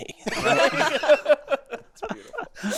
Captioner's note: all laughing